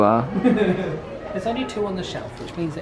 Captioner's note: laughs